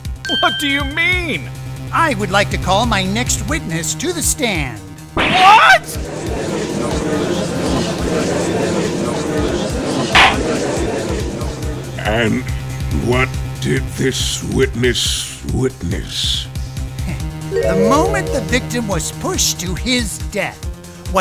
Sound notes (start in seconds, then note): 6.0 gallery chattering; 10.1 gavel slams, chattering subsides